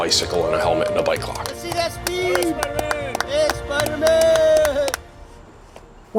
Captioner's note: clapping and cheering